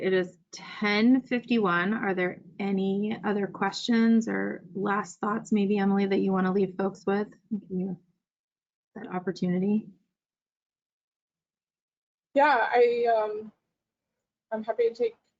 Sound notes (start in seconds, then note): 9.0 audio is choppy